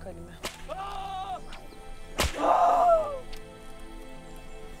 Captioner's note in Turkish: Kırbaç ve bağırma sesleri